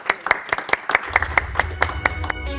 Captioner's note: applause